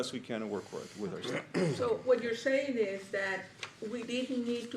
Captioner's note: clears throat